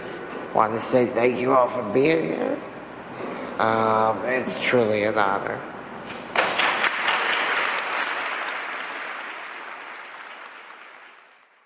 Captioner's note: applause